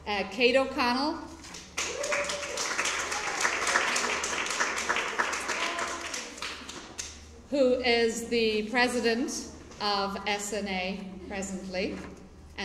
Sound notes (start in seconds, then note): 1.7 cheering and applause